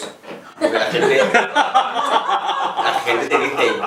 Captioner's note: laughs